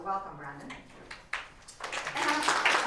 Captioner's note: applause